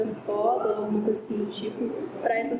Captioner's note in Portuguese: barulho de chuva ao fundo